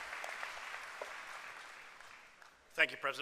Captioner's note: applause